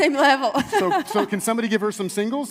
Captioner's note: laughs